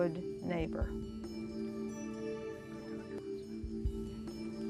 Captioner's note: whispering